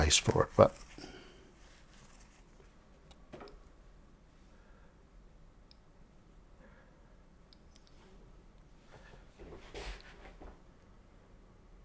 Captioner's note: silence